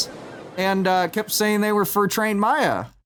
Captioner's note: seagulls at a medium distance; waves lapping against a rugged beach